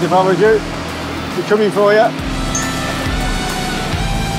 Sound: laughs

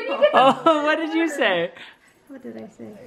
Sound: voiceover

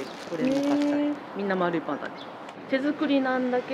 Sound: laughs

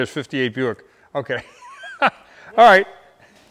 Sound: laughs

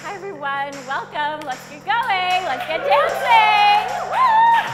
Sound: workout class chatter

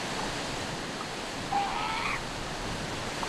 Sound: calls

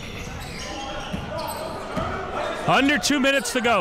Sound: crowd cheering

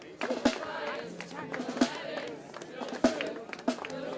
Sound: protestors chanting

